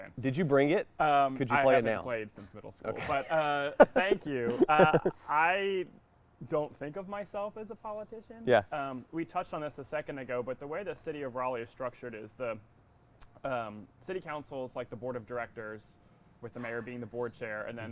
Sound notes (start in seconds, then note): 2.9 laughing